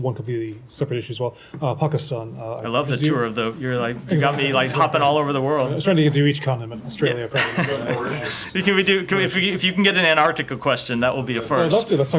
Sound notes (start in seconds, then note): 7.3 laughter